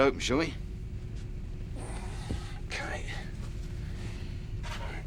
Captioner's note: sighs